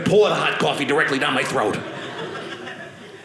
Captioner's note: audience laughing